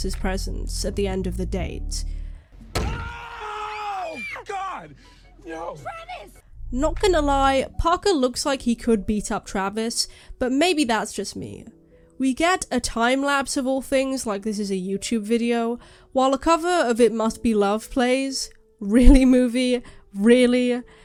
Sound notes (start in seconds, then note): 2.8 screaming